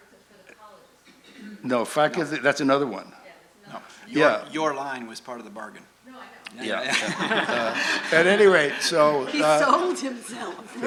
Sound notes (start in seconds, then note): 0.2 voiceover; 3.6 voiceover; 6.3 voiceover; 6.8 laughter